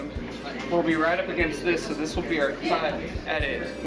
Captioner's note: none